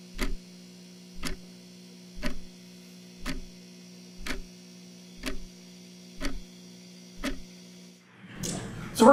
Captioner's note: clock ticking continues